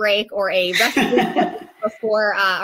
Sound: laughter drains speech

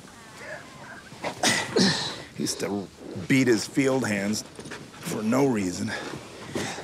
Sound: grunts

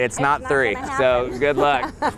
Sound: wife laughs

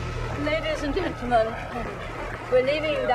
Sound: crowd clapping

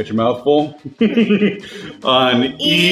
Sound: laughing

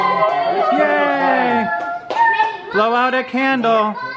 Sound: all cheer

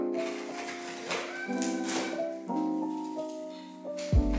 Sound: small screaming noises

